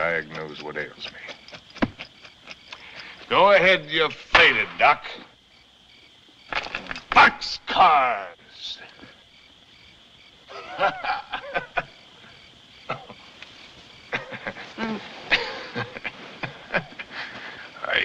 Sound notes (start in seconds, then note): 10.4 laughs; 13.4 coughs, Laughs